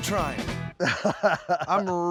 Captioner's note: laughing